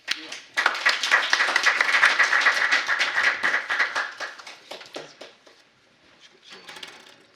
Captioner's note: applause